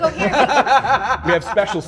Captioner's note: laughs